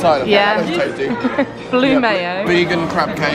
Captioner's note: laughing